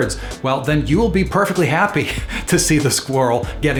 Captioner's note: laughs